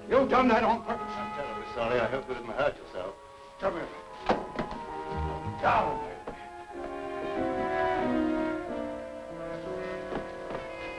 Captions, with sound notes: You done that on purpose. - I'm terribly sorry. I hope you didn't hurt yourself. - Come here. (gun thuds) Down there. (pensive music)